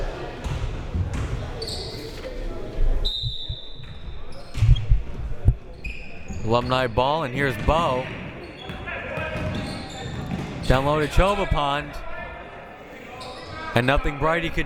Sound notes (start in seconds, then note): 3.0 whistle